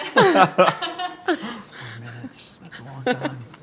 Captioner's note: laughing